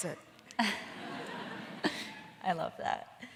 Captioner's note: audience laughing